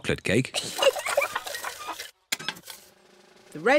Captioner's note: giggles